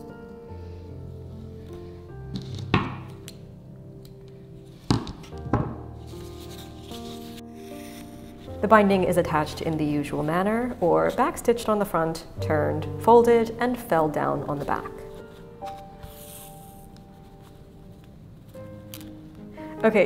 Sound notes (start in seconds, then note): 0.1 classical music; 0.1 fabric rustling; 2.7 scissors clattering; 5.9 fabric rustling; 6.2 classical music; 14.6 fabric rustling; 15.1 classical music